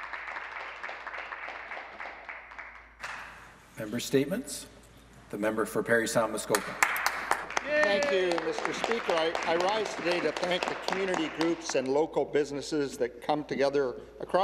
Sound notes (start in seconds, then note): 3.2 applause